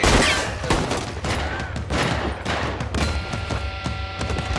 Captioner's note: gunfire continues